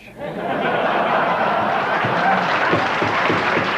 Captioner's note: audience laughing; audience applauding